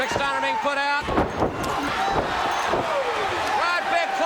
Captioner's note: crowd cheering